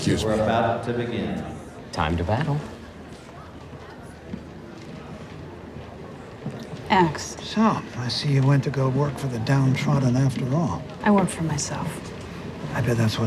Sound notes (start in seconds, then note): 3.8 group quietly chattering